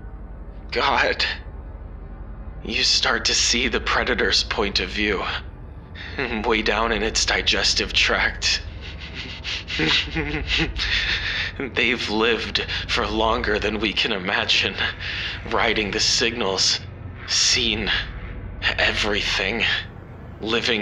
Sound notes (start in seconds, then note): 9.5 laughs